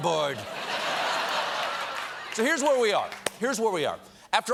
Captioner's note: laughter